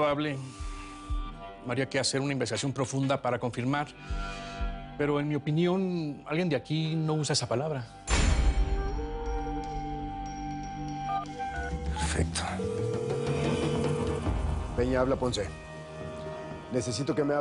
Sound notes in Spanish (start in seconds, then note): 12.9 Suena el celular